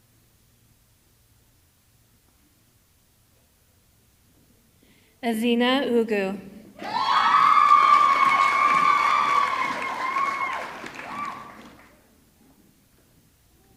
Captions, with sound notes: Ezinne Ugwu, (audience clapping) (audience screaming)